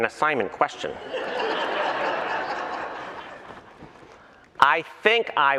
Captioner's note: laughter